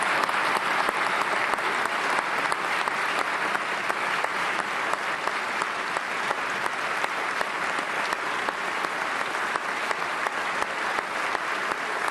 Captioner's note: applause